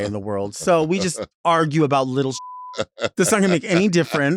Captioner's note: beeps